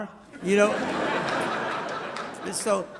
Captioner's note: audience laughs